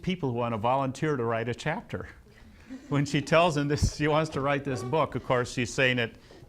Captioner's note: laughs